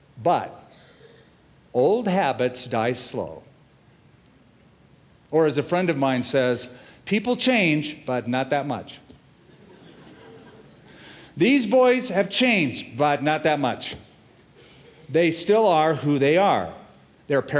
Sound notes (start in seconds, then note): 9.4 laughter